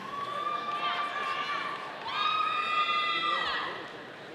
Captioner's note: audience cheering